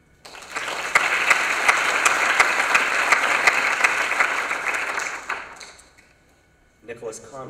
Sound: applause

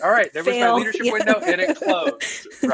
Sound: laughing

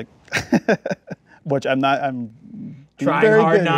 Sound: laughs

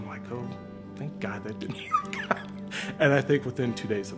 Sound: laughs

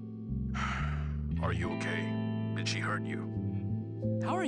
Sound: sigh

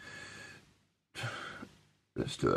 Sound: sigh

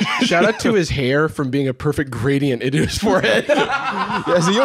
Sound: laughs

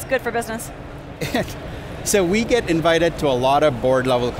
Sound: laughs

